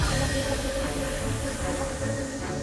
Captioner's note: bell dinging; dark instrumental music; fryer sizzling